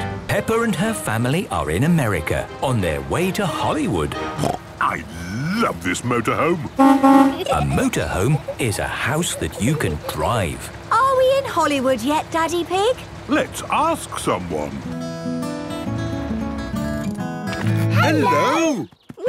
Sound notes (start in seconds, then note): 6.8 honking; 15.1 country music